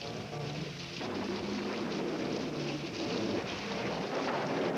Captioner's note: rain; thunder